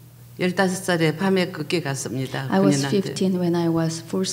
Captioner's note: speaking foreign language